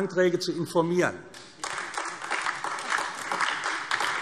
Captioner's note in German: Beifall AfD